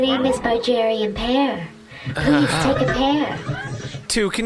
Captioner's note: pear-eating noises